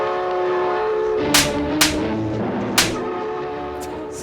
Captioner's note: slap sound effects, a few seconds too late